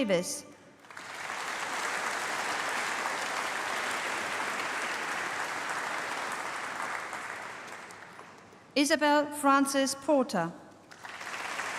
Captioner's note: applause; applause